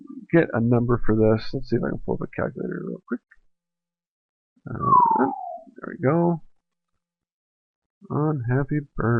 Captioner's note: bird call